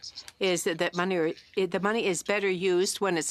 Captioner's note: speaking French